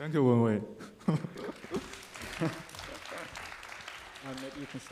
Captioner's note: audience applauding